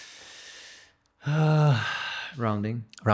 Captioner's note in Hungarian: sóhaj